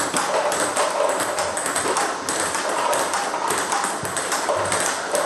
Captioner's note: ball ping pong hitting continues